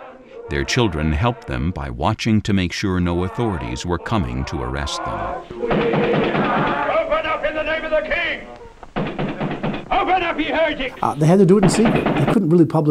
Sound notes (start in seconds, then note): 5.4 congregation singing; 5.5 pounding on door